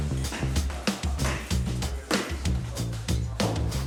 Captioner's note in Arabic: اللاعبين يتحدثون